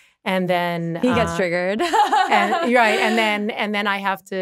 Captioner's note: laughing